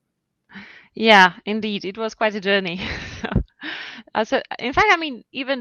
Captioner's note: chuckles